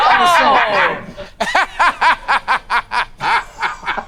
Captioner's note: laughs